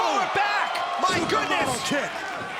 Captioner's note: crowd chatter